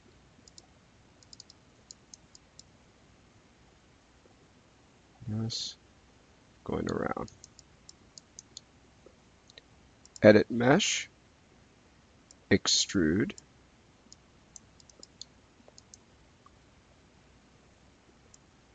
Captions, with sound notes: Just goin' around. (mouse clicking) Edit mesh, extrude. (mouse clicking)